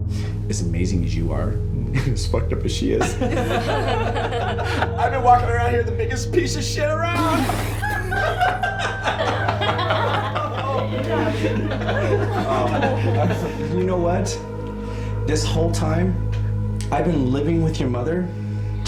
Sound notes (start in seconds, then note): 2.8 laughter; 7.1 sputters; 7.1 laughter